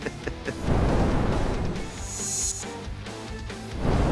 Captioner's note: flames whoosh